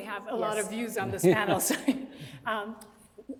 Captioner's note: chuckling